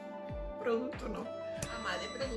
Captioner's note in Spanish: sonido: piiiiii